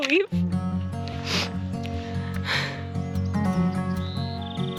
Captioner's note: birds chirping